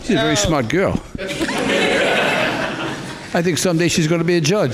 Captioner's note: crowd laughing